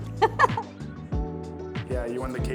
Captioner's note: laughs